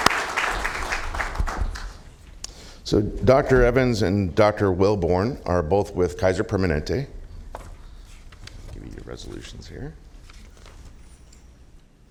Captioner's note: applause